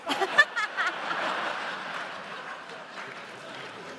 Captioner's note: laughter